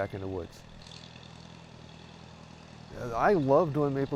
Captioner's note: tractor engine